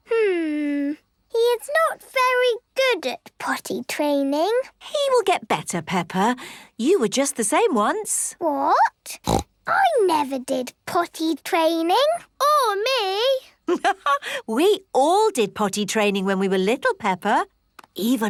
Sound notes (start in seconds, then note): 9.2 snorts; 14.0 laughs